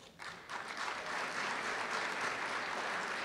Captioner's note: applause